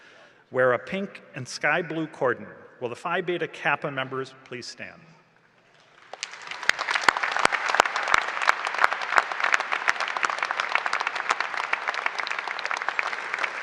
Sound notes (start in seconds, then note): 1.5 applause and cheering